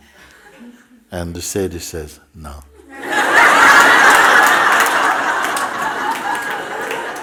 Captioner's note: laughter